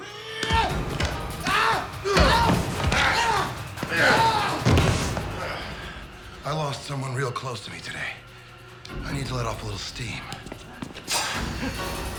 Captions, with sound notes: ( yells ) ( grunting ) I LOST SOMEONE REAL CLOSE TO ME TODAY. I NEED TO LET OFF A LITTLE STEAM.